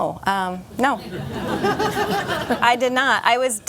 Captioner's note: laughter